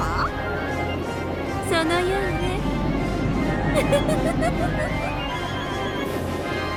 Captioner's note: giggle, giggle, giggle